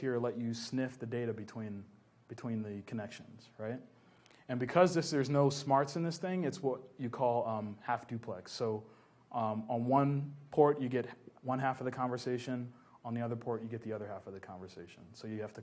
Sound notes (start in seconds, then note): none